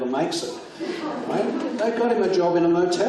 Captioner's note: audience laughs